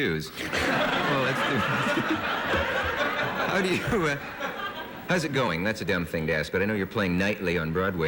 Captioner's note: laughter